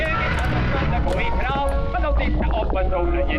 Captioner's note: door creaking; vocalist singing in foreign language